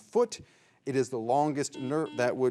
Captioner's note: signal beeps